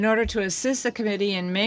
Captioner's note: speaking in French